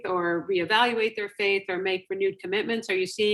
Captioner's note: none